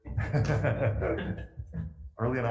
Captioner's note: laughing